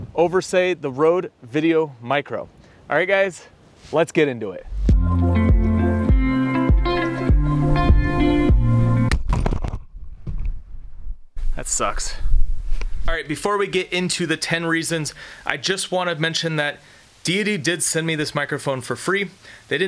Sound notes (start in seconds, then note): 4.8 light music; 9.0 object thuds